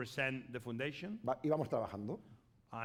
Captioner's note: speaking spanish